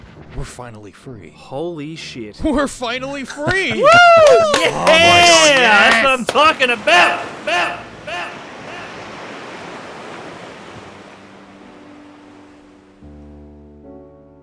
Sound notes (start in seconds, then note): 3.5 the crew cheers